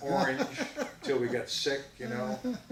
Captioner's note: laughs